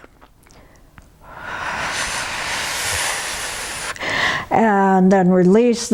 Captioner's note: breathing out